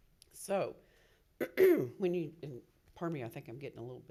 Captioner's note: clears throat